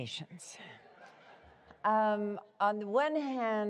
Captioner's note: laughter